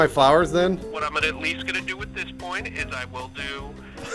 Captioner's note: man on the phone